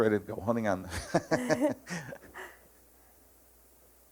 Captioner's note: laughing